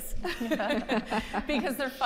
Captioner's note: group laughing